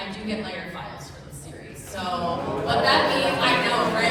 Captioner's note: audience makes impressed noises